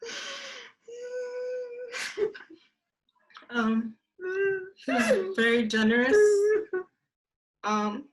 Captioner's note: crying